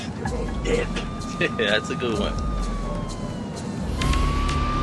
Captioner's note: Сирена плаче